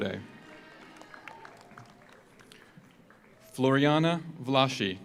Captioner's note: audience cheers; audience applauds